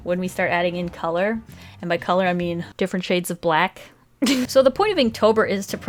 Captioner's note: giggles